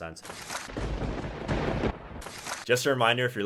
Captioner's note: lightning crashes